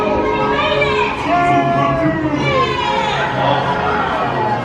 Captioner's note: dramatic music; mice cheering